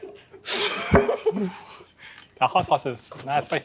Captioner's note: laughter